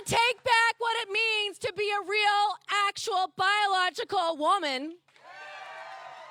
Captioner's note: cheers and applause